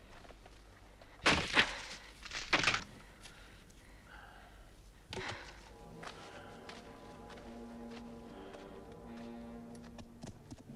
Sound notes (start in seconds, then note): 1.4 weapon handle snapping; 5.7 dramatic music